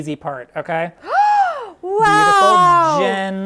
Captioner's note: gasps